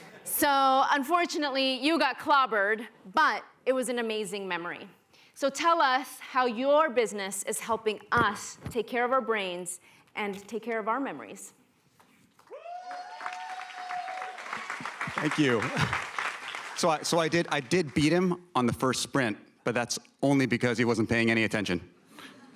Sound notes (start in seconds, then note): 12.4 cheering, applause